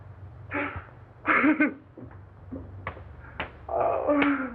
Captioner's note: continues sobbing